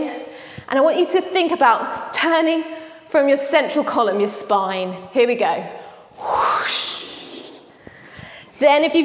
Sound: whooshhh

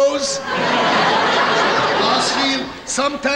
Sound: audience laughing

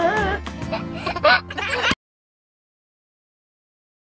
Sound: baby giggles

